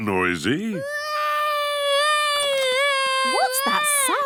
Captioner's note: baby wailing